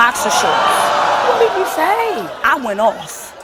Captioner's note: audience exclaims in disbelief